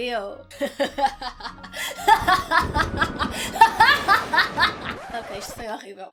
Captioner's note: evil laughter and thunder